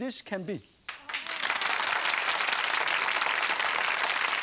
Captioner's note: clapping